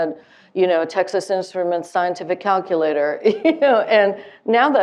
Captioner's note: laughing